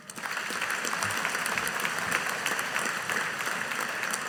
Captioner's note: audience applauding